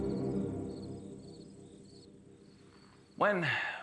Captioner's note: crickets chirping